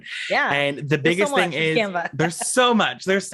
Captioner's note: laughs